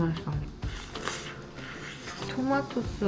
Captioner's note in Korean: 후르릅